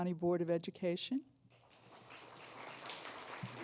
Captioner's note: applause